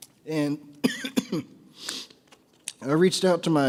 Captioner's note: coughs